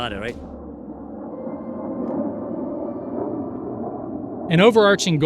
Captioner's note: jet engines roaring